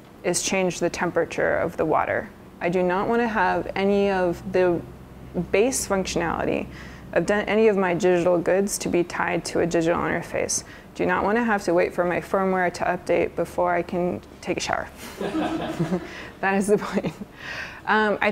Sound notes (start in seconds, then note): 15.0 laughter